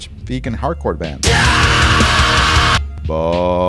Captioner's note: scream